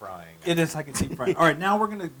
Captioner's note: laugh